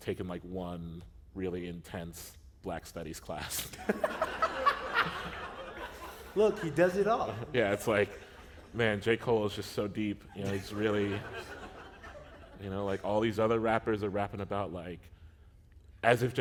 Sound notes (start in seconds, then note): 3.6 laughter